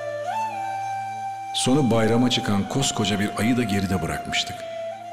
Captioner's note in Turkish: dış ses